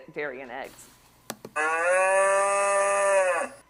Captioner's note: mooing